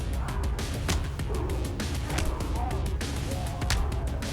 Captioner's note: blows thudding; mellow upbeat music